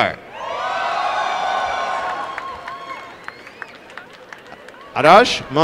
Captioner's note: applause and cheering